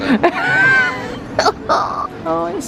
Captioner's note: laughing